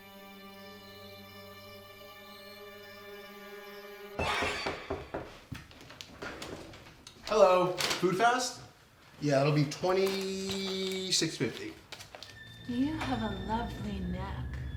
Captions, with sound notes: (tense music) (door knocking) - Hello, Food Fast? Yeah, that'll be $26.50. (ominous music) - You have a lovely neck.